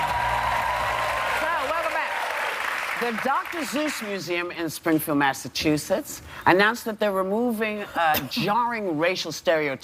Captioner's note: cheers and applause